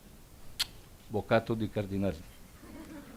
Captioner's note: speaks Spanish; audience laughs